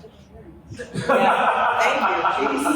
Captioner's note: laughter